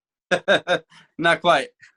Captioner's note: laughing